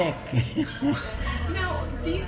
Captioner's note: laughs